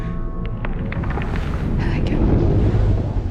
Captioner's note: tense music; alien rustling